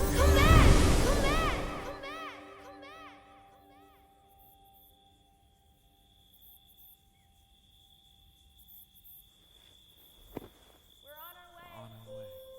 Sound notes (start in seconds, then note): 2.1 "Come back" echoes; 7.6 insects chirping